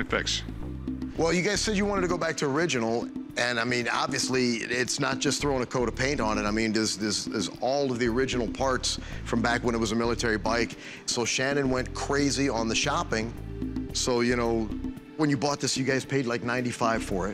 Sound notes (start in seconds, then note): none